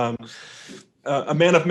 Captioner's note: chuckling